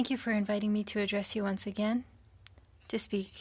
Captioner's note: speaking French